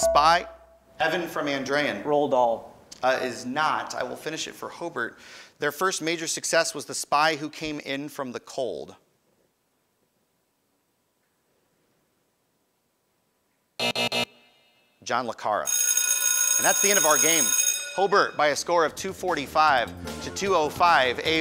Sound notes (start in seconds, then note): 0.0 ding; 13.8 buzz; 15.7 ringing